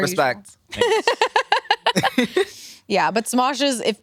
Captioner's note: laugh